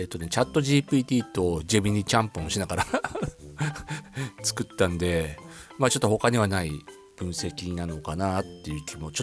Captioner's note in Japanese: 笑い